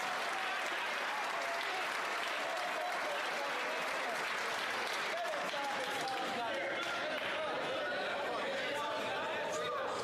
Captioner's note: some Applause